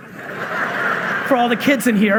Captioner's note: audience laughing